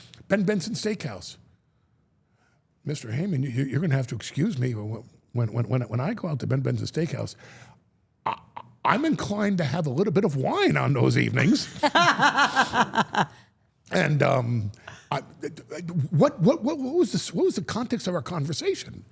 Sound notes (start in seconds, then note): 11.7 Steph and Elyse laughing